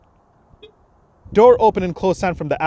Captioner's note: soft beep